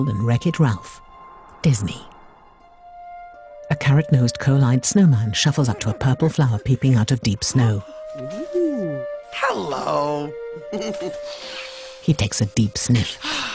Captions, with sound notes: and "Wreck-It Ralph," Disney. A carrot-nosed coal-lined snowman shuffles up to purple flower peeping out of deep snow. - Ooh, hello. (chuckles) (sniffs) - He takes a deep sniff.